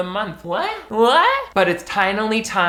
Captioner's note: goose honk